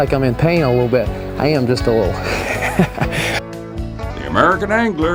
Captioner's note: laughter